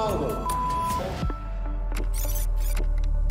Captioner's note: video rewinds